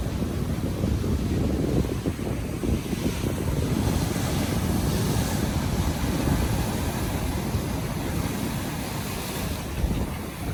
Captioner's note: sea breeze blows audibly and waves continually crash